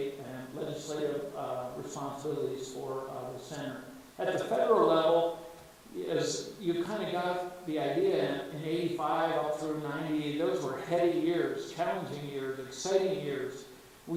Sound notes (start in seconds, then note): none